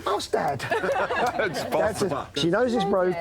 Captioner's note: laughter